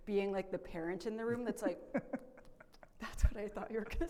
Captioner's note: laughs